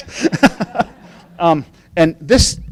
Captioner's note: laughing